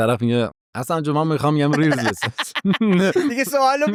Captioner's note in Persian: خنده